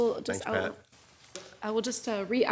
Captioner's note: pat